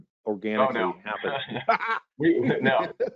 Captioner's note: laughing